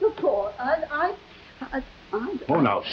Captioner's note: Veta stuttering